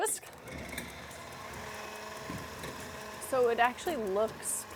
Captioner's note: whisk whirs